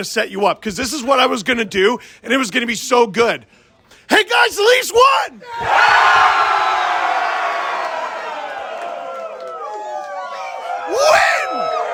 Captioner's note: crowd cheers